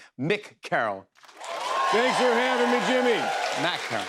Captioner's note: cheers and applause